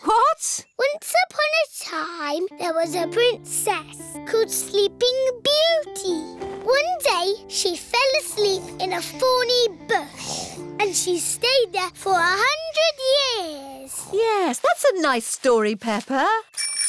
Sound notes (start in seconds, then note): 13.9 snoring